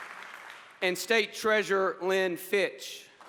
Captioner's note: applause